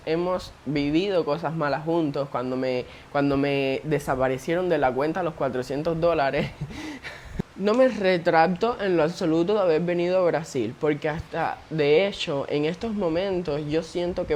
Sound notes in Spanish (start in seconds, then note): 6.3 risas